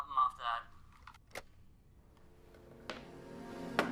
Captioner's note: phone thumping; gentle music